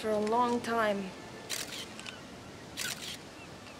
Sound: camera shutter clicking

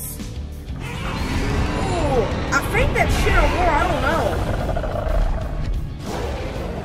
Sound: all roar and growl

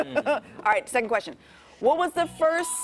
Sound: laughter

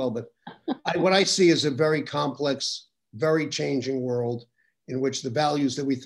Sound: laughs

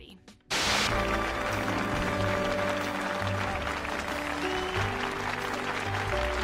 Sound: audience claps and cheers

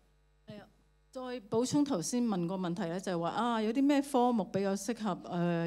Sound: Cantonese

